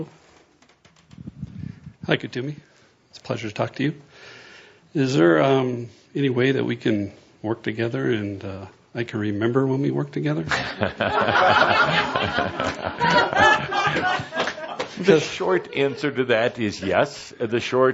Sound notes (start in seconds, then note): 10.5 laughter, Kuthumi chuckling